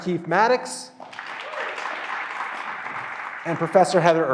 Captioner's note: graduands applauding